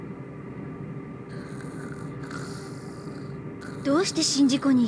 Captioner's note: Yamaoka snoring